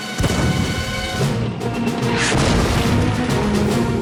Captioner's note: explosion